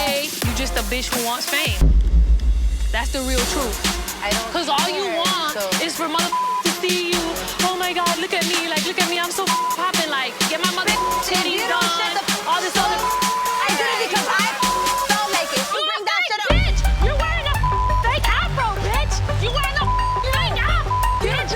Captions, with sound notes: - At the end of that day, you just a bitch who wants fame. That's the real truth. 'Cause all you want is for mother (beep) to see you. Oh my God, look at me, like, look at me. I'm so (beep) popping, like get my mother (beep) titties done. - Bitch if you don't shut the- so what! I did it because I (beep) felt like it. - (yelling) You a fake bitch. You wearing a (beep) fake Afro, bitch. You wearing a (beep) fake Afro, bitch.